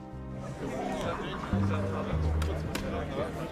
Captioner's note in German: Stimmengewirr, erwartungsvolle Klänge